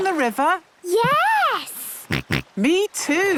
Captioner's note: snorts